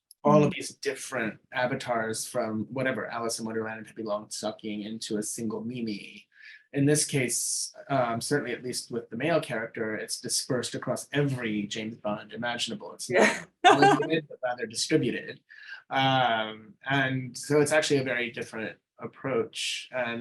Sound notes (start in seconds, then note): 13.6 laughing